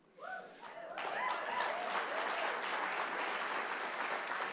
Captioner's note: cheering